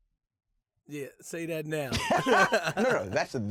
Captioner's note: laughs